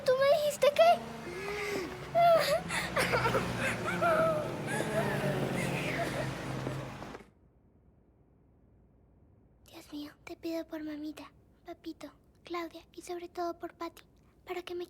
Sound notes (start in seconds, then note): 1.1 crying